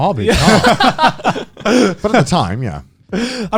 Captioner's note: laughs